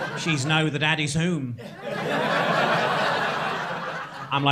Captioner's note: crowd laughing